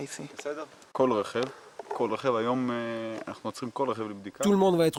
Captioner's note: Hebrew spoken audio